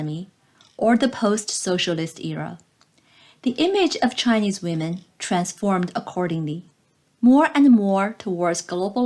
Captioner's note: click